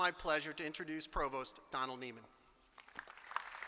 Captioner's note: applause